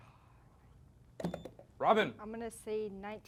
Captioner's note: beep